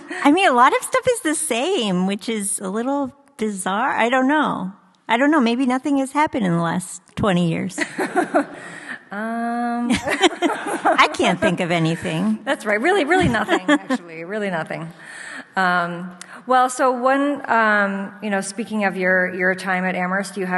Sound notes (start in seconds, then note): 7.8 audience laughs; 9.8 laughs